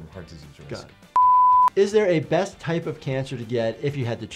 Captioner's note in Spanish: pitidos de transmisión